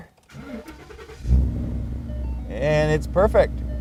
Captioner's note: car starting